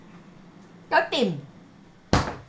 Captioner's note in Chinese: 廣東話